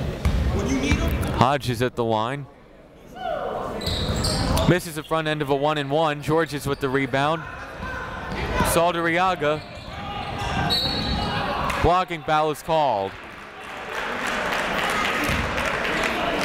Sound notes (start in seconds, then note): 10.6 whistle; 13.6 clapping